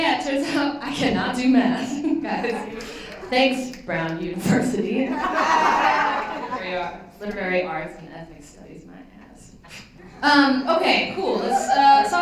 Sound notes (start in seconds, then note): 5.1 laughter